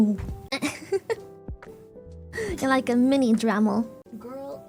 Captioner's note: laughs